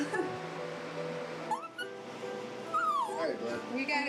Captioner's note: laughs; whining